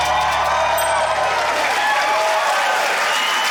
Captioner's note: ding!; cheering, applause